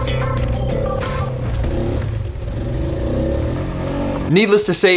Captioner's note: upbeat music; ATV engine revs